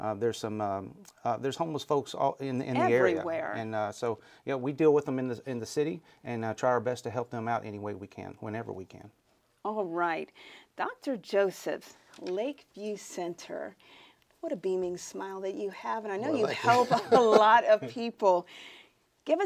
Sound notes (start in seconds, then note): 16.2 laughs